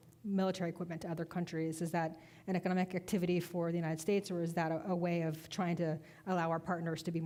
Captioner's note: none